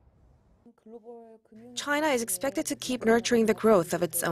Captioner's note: Korean